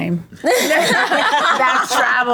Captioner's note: group laughs